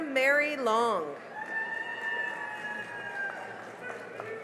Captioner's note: cheering and applause